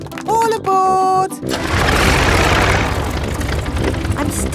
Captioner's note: plane engine starts